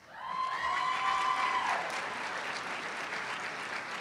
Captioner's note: cheers and applause